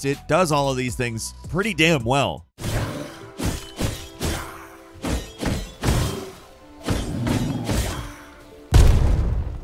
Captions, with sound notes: it does all of these things pretty well. (monsters roaring) (swords swishing and clanking)